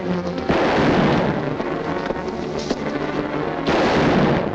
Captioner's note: gun firing